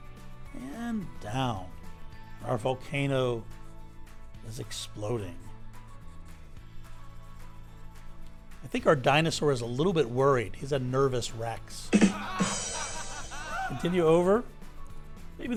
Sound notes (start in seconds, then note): 11.9 laugh track playing